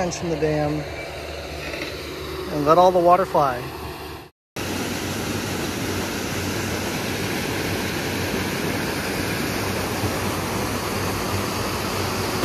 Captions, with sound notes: and let all the water fly. (water rushing)